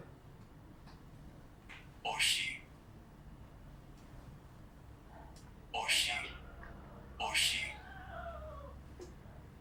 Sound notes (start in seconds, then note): 1.6 achmet – artificial male voice